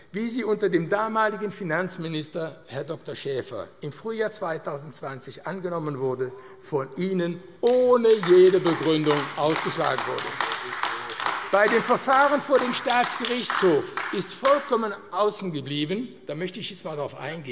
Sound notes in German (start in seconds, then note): 10.9 Beifall AfD